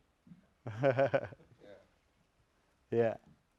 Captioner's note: laughter